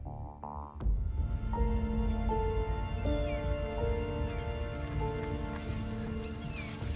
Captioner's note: brooding orchestral music; gulls squawk